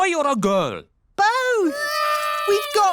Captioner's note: babies cry